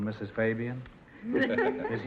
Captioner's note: laughing